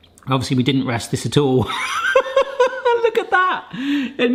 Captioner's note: laughs